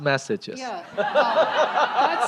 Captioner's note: laughter